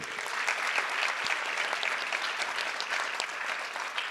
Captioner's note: audience applause